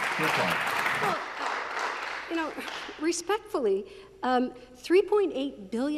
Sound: applause

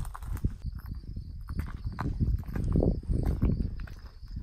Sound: wind blowing; crickets chirping

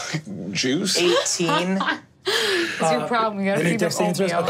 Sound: laughs

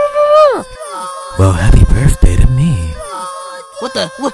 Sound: "STRAW GANG" echoes

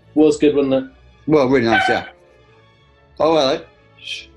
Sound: dog barks

